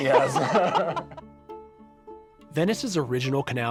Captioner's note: laughs